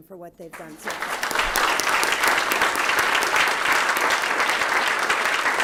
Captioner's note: applause